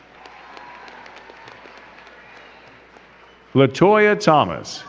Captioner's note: crowd cheering and clapping